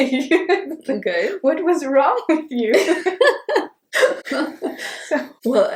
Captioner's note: laughs